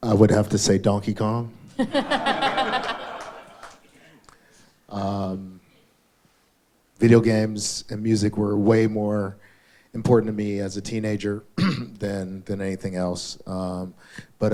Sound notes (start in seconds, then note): 1.8 all laugh